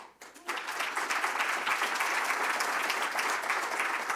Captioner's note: applause